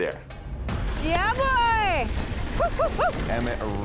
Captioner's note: cheers